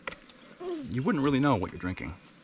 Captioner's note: jug thuds